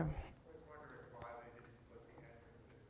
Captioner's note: voiceover